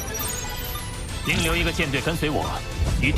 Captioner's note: signal is blocked